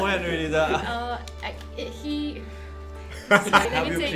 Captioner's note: sighs